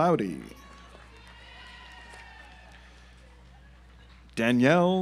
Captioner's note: audience applauds